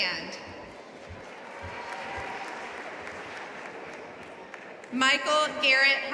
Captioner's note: audience applauding